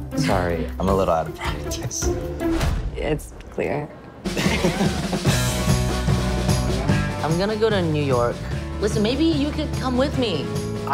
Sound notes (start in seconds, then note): 4.2 upbeat music; 4.3 both laughing